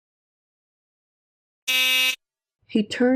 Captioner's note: intercom buzzed